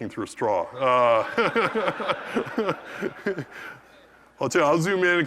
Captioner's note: laugh